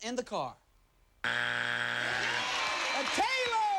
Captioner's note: cheers and applause